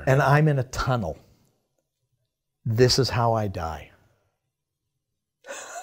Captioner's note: chuckles